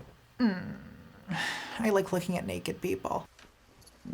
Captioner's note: whines